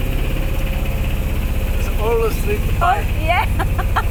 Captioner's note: laughter